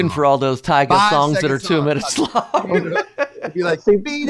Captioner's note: laughs